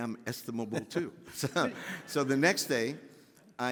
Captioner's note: laughing